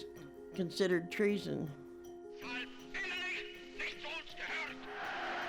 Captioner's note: shouting in German, cheering from crowds